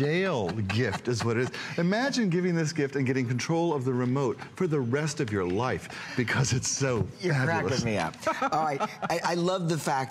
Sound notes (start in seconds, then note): 8.2 laughter